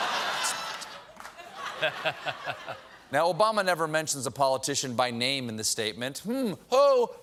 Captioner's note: laughter